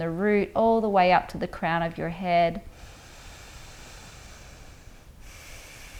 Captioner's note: inhales deeply; exhales slowly